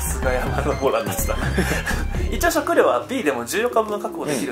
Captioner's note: laughs